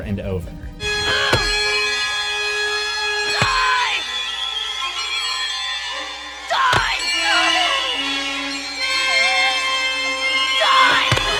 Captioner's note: screaming "die" over and over